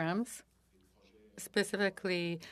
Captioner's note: speaking French